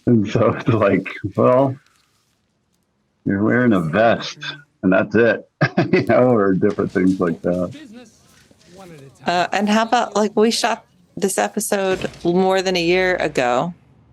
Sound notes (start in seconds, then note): 5.4 chuckles